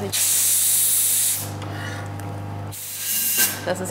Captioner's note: hissing sound